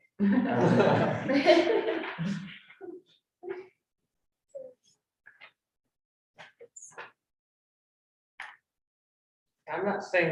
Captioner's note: all laughing